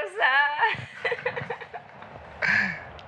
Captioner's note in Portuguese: risadas